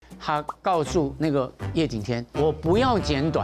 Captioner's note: speaking in Chinese